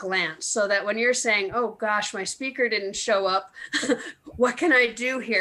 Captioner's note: laughs